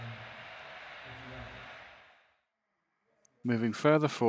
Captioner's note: silence regains power slowly